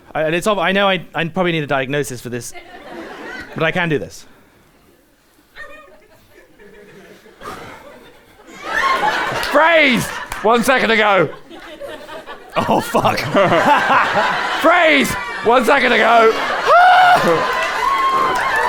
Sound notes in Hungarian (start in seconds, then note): 7.4 hangosan sóhajt; 16.6 fájdalmasan sikít